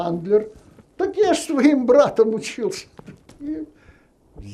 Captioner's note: laughing